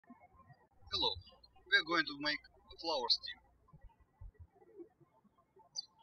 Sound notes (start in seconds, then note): 0.9 birds chirping; 5.6 birds chirping